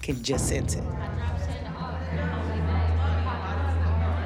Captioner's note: chatter